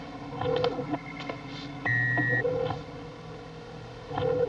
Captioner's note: porta emite um sinal sonoro